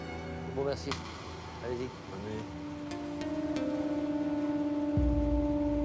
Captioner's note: Rene speaks in French